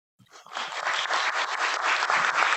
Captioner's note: applause